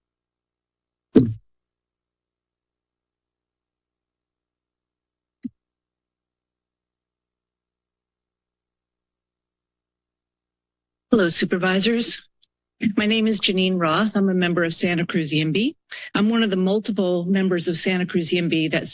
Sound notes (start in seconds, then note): 0.1 silence